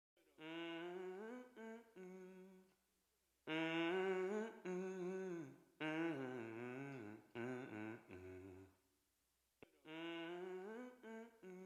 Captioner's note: humming